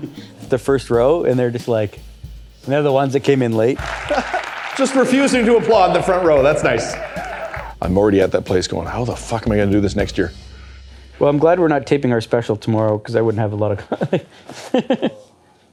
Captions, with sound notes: The first row and they're just like they're the ones that came in late. Just refusing to applaud the front row, that's nice. I'm already at that place going, how the fuck am I going to do this next year? Well, I'm glad we're not taping our special tomorrow because I wouldn't have a lot of. (Laughter)